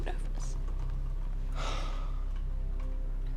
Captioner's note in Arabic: تنهدات